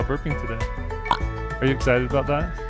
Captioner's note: burps